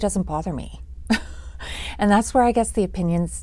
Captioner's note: chuckles